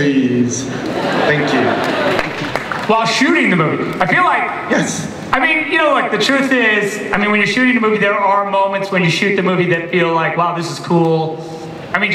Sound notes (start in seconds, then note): 0.2 voiceover; 0.8 laughter; 4.8 voiceover